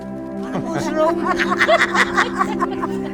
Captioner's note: laughter